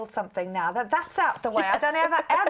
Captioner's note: laughter